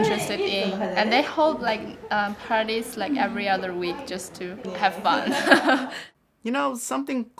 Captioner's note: chuckles